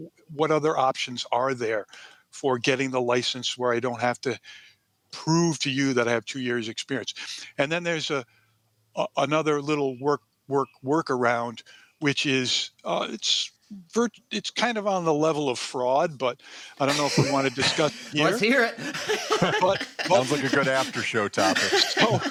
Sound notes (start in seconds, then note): 18.9 laughter